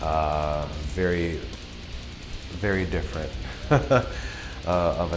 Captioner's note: laughs